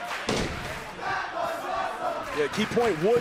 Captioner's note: crowd cheering